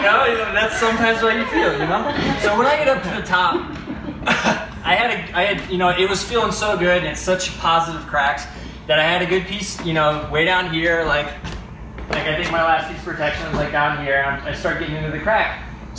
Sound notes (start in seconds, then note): 3.9 laughs